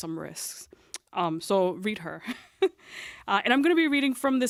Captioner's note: chuckles